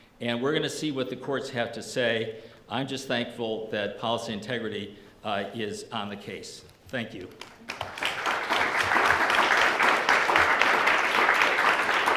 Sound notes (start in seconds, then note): 7.5 audience applause